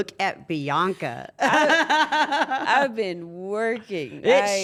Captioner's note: laugh